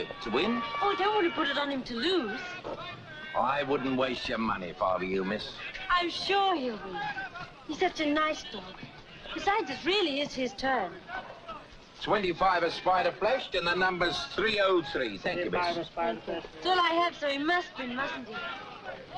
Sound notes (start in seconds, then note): none